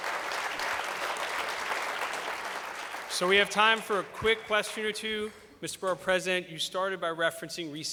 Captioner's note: applause